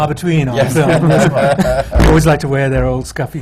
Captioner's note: laughter